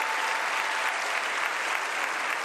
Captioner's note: applause